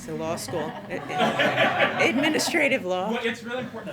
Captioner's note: laughter